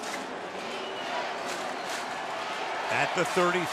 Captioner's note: crowd chanting